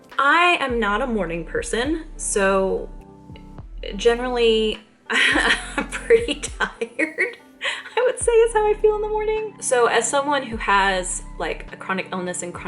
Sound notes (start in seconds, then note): 5.2 laughs